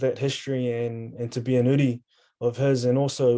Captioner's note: speaking in foreign language